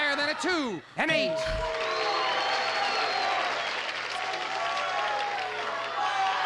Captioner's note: audience shouting